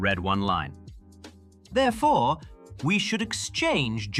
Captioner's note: none